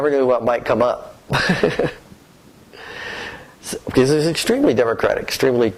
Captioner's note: laughter